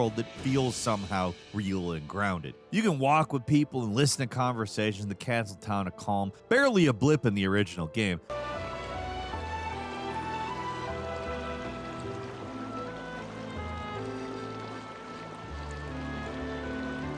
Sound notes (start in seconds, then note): 8.2 majestic music; 8.3 water babbling